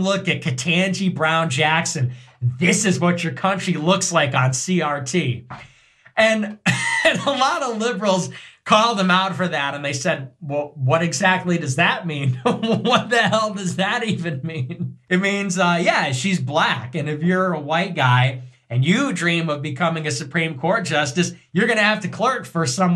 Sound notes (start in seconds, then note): 6.3 laugh; 12.1 laugh